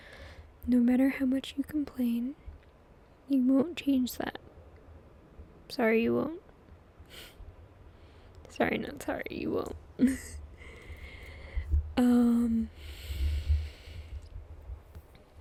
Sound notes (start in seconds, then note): 6.9 laughs